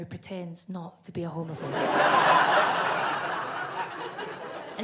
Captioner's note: audience laughs